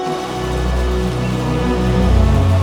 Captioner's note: rain